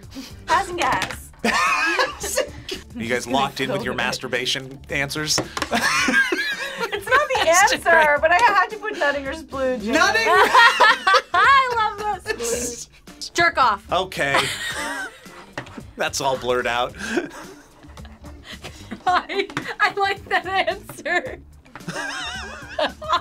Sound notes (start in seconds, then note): 1.4 laughs; 5.5 group laughs; 9.9 group laughs; 14.3 both laugh; 16.8 laughs; 21.8 both laugh